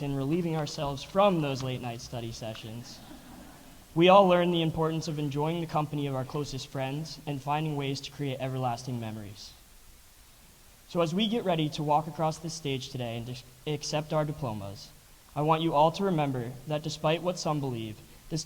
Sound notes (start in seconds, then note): 2.8 audience laughs